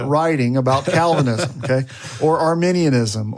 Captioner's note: continues laughing